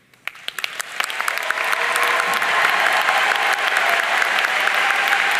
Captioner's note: audience cheering and applauding